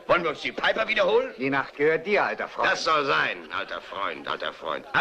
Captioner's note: none